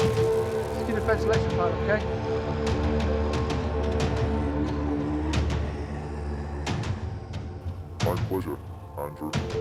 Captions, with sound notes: Keep the fence electrified, okay? (chilling music continuing) (clones snarling continuing) - My pleasure, Andrew.